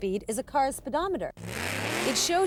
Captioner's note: revs